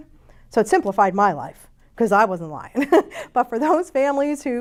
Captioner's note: chuckles